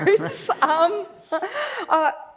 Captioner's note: laughs